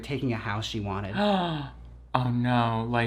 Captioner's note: gasps